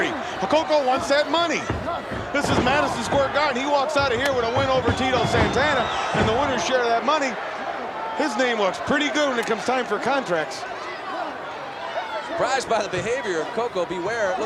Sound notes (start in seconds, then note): 0.0 applause; 11.1 applause